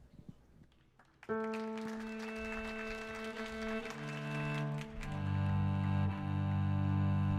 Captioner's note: audience applauds; soft music